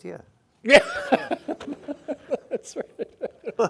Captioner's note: laughing